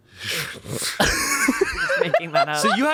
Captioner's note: everyone laughs